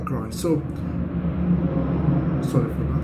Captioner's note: loud whirring sound